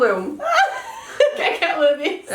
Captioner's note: laughs